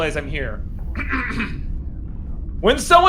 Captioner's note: clears Throat